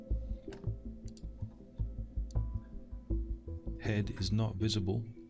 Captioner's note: clicking